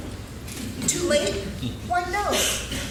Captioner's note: laughing